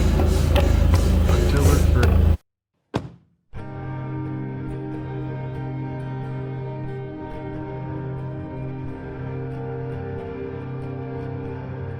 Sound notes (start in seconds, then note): 0.1 music intensifies; 0.1 pants; 3.1 car door slams; 4.4 somber acoustic guitar music